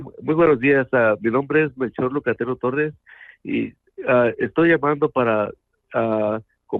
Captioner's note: speaking in Spanish